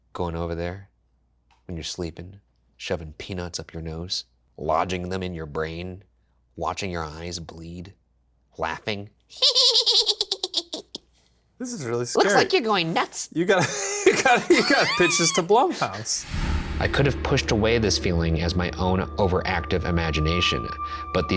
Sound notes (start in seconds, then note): 9.4 laughs; 13.5 Shane laughs